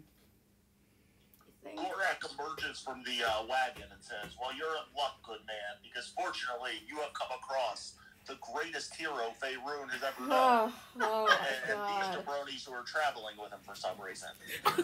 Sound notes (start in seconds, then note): 10.8 laughter and groans